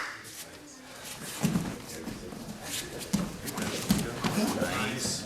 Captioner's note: soft thudding